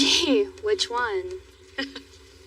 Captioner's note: chuckckles